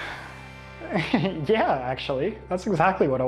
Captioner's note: chuckling